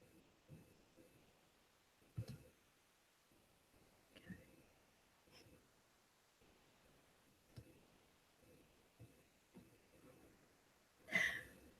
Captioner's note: silence